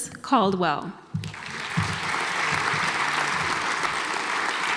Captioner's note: audience applauds